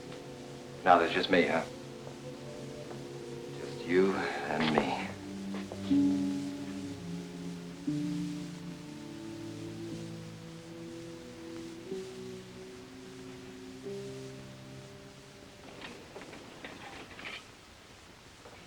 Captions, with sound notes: - Now there's just me, huh? Just you and me. (mellow instrumental music) (metal clanging)